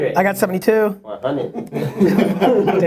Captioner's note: laughing